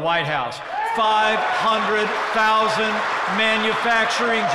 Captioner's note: applause